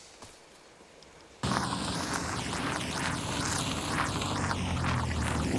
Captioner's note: car engine revving